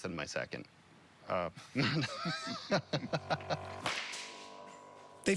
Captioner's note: laughs